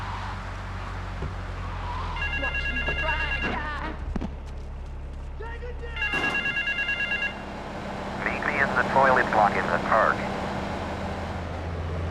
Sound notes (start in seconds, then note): 7.8 car beeping